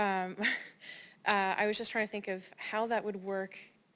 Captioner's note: laugh